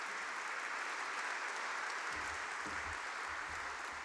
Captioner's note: applause